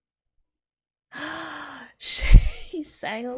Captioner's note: gasps